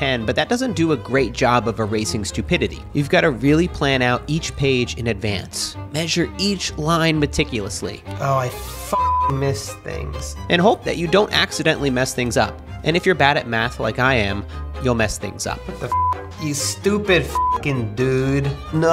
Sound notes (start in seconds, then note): 8.9 beep; 17.2 beep